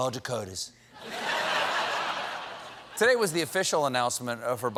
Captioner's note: laughter